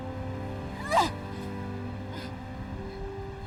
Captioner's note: grunting